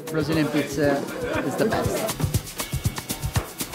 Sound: speaking Portuguese

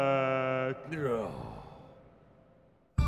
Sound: sighs

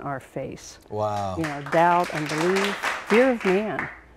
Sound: applause

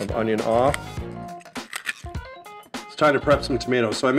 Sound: crack

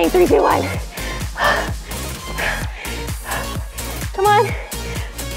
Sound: heavy breathing

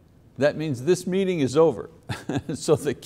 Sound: laughs

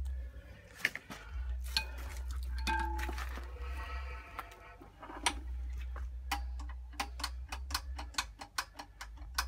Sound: rattle rattle rattle rattle

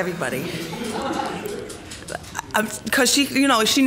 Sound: laughing

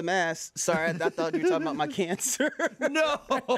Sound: laughs

